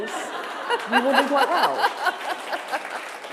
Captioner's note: laughter; applause